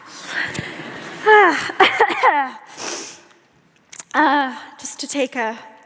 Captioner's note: audience laughs